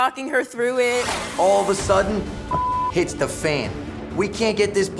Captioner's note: beep